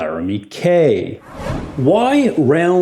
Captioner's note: whooshing